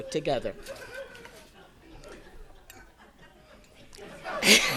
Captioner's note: audience laughing